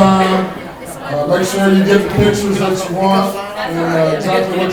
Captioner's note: people clapping